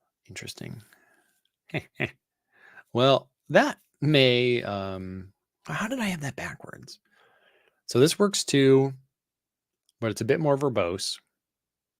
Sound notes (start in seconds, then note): 1.7 laughs